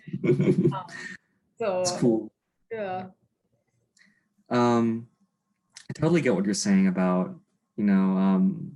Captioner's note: laughs